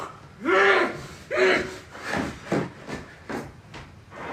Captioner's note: Billy grunts